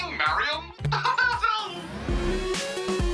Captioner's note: laughs